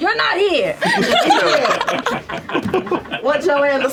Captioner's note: laughter